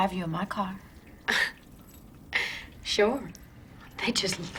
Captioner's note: laugh/snort